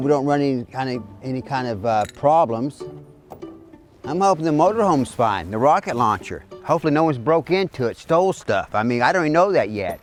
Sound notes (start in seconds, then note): none